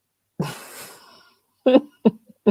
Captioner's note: giggles